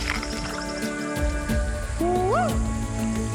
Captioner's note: screams